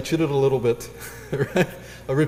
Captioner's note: laugh